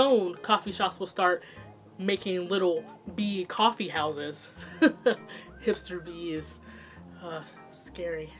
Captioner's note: laughs